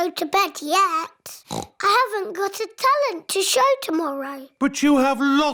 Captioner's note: oinks